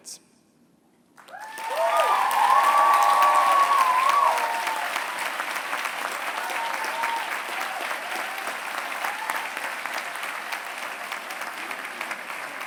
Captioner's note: applause